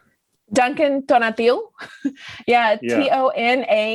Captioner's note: laughs